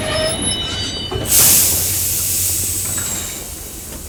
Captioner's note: steam hisses